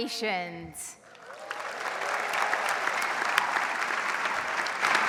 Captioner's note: audience applauds